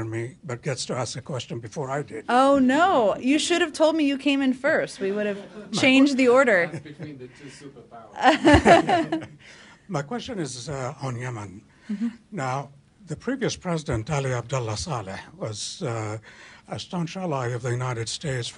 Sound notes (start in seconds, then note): 5.2 laughter; 8.2 laughter